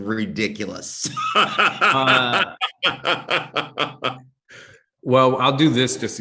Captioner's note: laughs